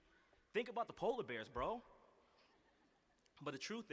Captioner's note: laughter